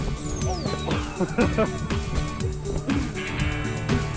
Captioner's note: laughs